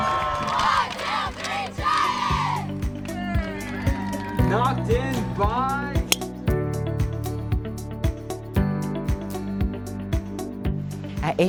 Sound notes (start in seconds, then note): 6.1 golf ball fizzes; 8.0 gentle music playing